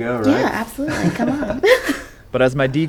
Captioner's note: laughs; chuckles